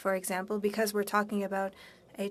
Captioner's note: speaking French